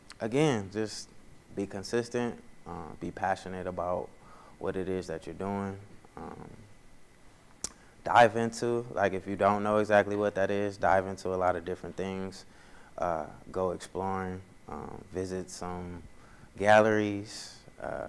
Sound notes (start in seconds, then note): none